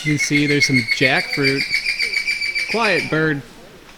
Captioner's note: loud Bird Chirping